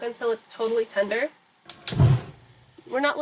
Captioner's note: whoosh